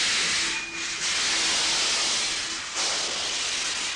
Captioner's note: gears screech